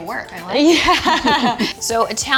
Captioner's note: women laughing